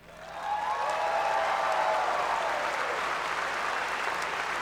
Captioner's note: cheering and applause